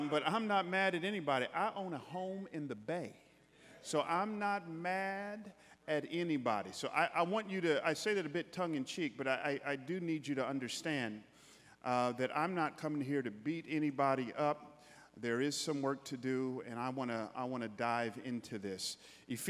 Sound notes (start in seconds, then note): none